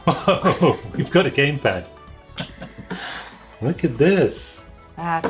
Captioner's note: laughs